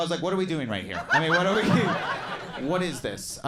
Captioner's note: crowd laughs